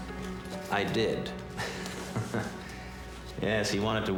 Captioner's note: man chuckling